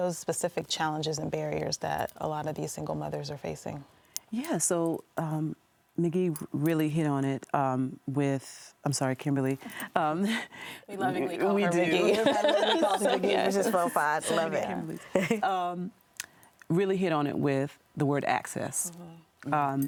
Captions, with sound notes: What are some of those specific challenges and barriers that a lot of these single mothers are facing? - Yes, so, Nageeve really hit on it with, I'm sorry, Kimberly. - We lovingly call you Nageeve. [all laughing] - Love it. - Really hit on it with the word access.